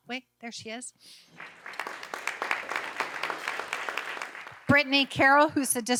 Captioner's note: audience applauding